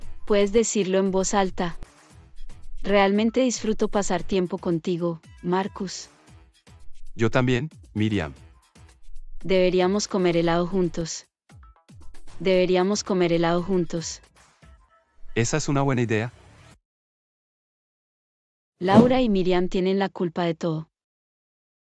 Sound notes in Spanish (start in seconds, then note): 18.9 FX - Whoosh - 03